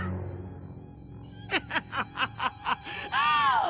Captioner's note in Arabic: يضحك